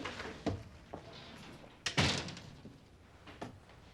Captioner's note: shutting door